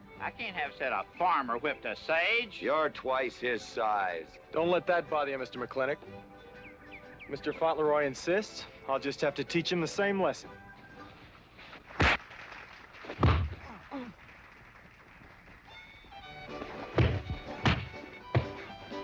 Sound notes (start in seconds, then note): 13.1 thud; 16.5 dull thuds